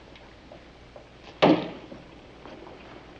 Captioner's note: smack